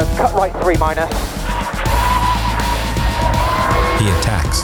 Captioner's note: engine revving